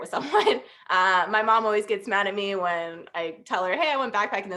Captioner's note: laughter